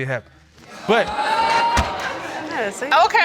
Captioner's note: audience exclaims